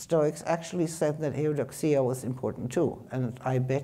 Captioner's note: speaking in foreign language